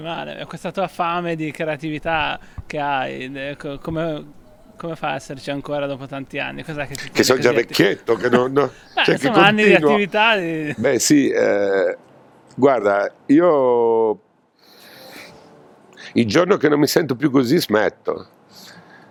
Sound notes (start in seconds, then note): 6.9 laughs